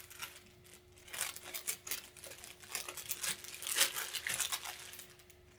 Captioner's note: paper rustling